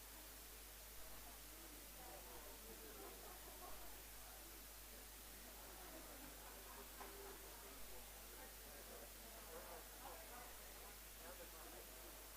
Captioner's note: indistinct conversation